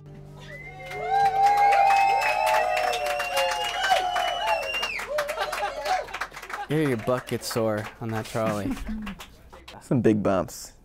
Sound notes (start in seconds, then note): 0.4 cheering